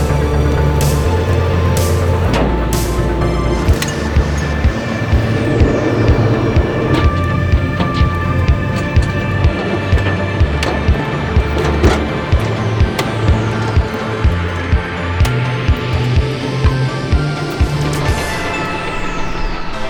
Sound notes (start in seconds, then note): 0.2 upbeat instrumental music continues; 3.8 clamp clanging; 10.7 vehicle creaking; 15.1 upbeat instrumental music continues